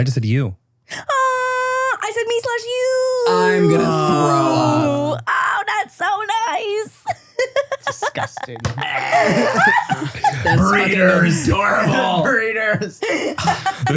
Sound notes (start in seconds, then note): 7.0 giggles; 8.4 makes gag sound